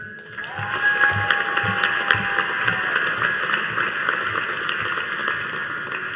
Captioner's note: audience cheering and applauding